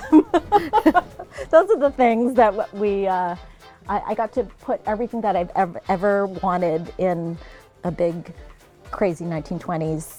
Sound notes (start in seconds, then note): 0.0 laughter